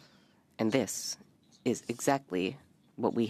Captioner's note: speaking French